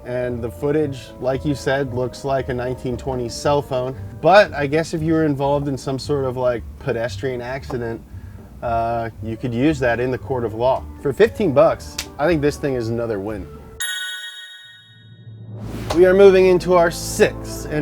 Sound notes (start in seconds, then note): 13.8 dings; 15.2 transition whooshes; 15.2 sad music